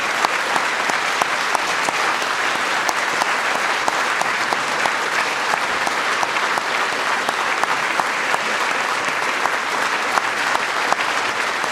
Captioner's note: applause